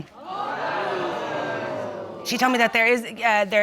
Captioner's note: audience exclaims